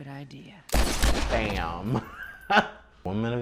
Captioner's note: gun firing